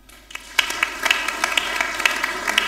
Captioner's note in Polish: oklaski